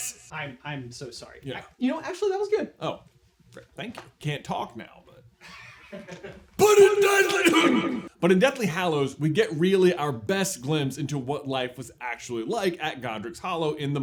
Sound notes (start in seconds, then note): 0.0 Trelawney voice; 6.6 coughs; 6.6 Trelawney voice